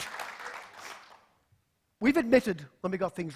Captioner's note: applause